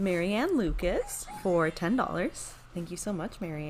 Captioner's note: Super Piggy Barking